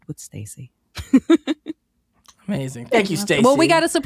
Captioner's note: giggles